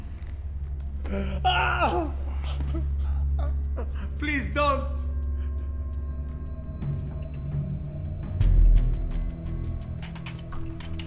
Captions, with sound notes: (shouts) - Please don't. (tense rhythmic music)